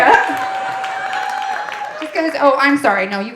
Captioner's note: audience applauding and cheering